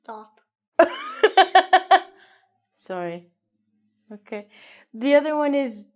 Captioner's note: laughs